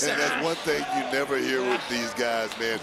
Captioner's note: chuckles